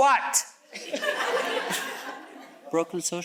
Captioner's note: audience chuckles